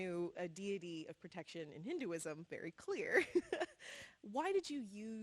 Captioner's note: laughs